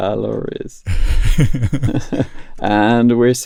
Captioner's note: laughter